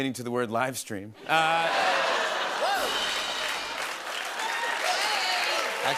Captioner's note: laughter and applause